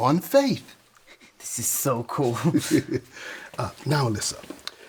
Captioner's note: laughs